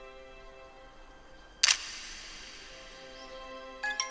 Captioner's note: click